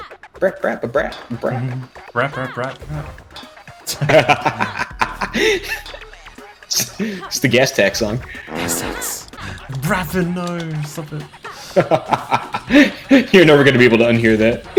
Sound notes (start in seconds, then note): 3.8 laughs; 8.4 fart SFX; 9.7 speaking with immediate regret; 11.2 laughs